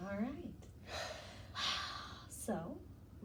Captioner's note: breathing deeply